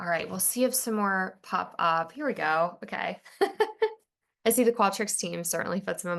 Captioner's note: laughs